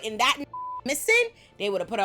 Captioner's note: beep